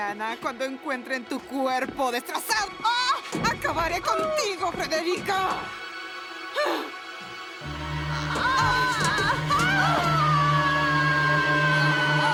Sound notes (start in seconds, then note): 7.7 Freddie and Lillian struggling; 9.2 Lillian screaming